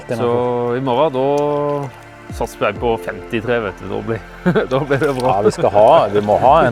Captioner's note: giggle